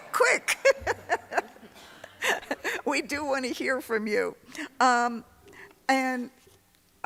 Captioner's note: laughs